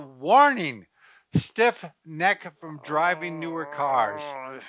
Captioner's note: groans